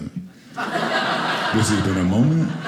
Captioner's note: audience laughing